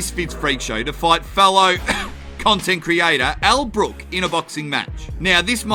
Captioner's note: cough